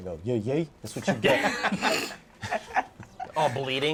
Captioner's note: laughing